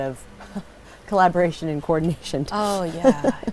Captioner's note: laugh